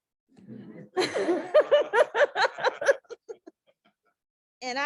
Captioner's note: laughter